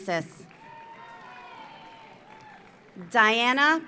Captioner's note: audience applauds; audience cheers